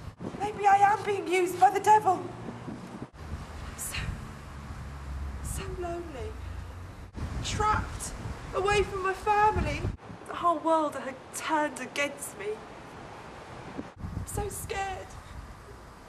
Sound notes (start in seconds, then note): none